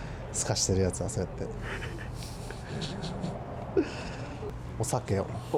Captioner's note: laughs